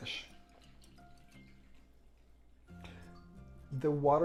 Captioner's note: pouring water